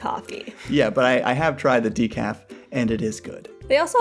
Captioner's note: sips